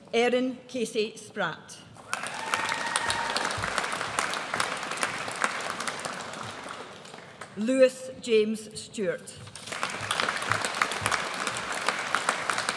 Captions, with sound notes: Erin Casey Spratt. (AUDIENCE APPLAUDS) Lewis James Stewart. (AUDIENCE APPLAUDS)